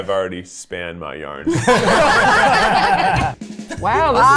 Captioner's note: all laugh